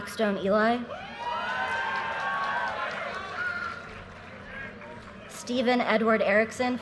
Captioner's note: audience cheers and applause